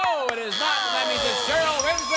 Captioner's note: buzzer